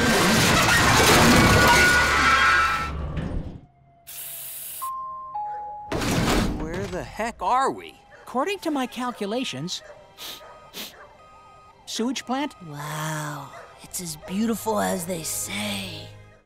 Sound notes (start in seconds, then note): 0.0 screeching; 4.9 dinging; 10.1 sniffing